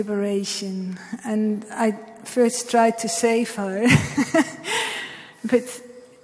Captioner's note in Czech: smích